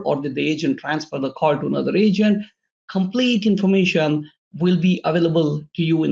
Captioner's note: none